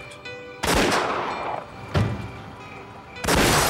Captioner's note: gunshot